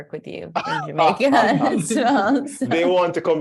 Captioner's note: laughter